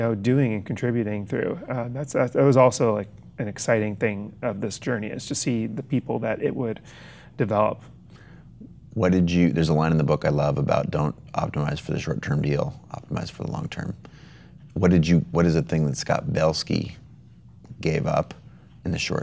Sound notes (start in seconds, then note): none